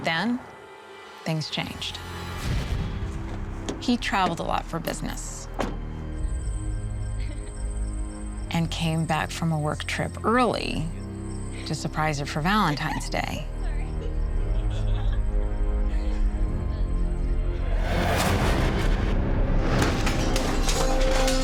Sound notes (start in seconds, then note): 13.9 laughter; 14.4 giggles; 17.5 ominous music